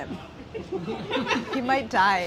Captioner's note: film crew laughs